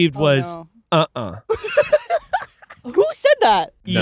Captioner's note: laughing